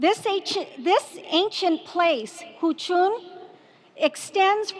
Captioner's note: speaking foreign language